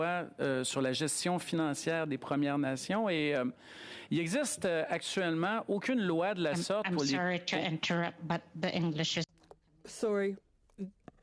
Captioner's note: speaking French